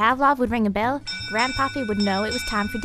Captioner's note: bell ringing